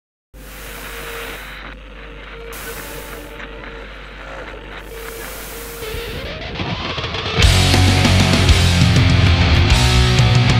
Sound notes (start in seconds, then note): 0.3 TV static hisses; 7.4 heavy rock music